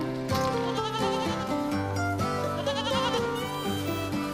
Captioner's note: goat bleating